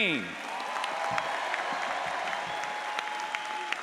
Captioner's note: audience applauds